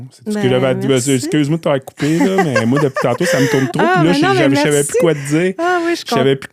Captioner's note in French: rires